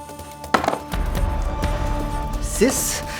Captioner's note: die rolling